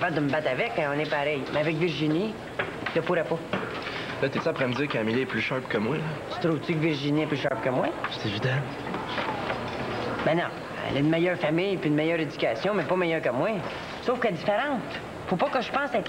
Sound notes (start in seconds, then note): none